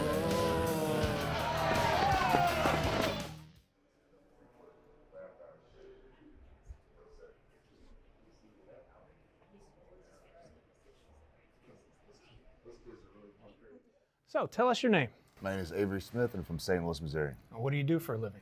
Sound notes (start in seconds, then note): 0.0 zombies moaning; 0.0 crowd yelling